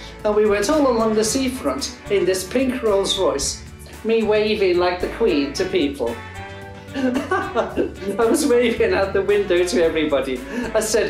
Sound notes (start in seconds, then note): 6.9 laughs